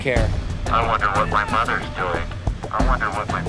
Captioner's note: instructor on megaphone